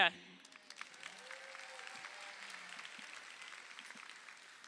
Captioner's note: crowd applauding